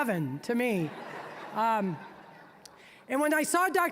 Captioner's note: audience laughing